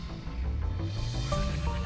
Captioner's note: graphics whooshing